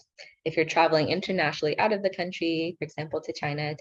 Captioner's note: speaking in foreign language